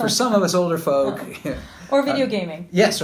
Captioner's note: laughter